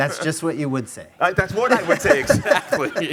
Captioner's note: laughing